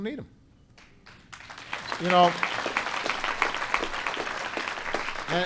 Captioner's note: applause